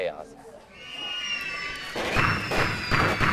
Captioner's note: screaming; gunfire